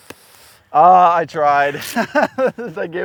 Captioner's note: laughs